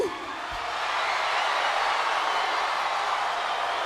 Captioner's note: crowd cheers